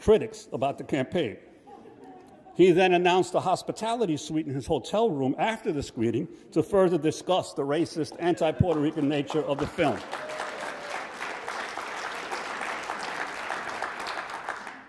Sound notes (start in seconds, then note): 3.4 audience laughs; 11.8 audience applauds